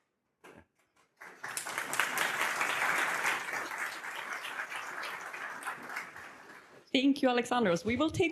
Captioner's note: audience applauds